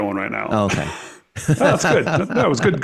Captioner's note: chuckles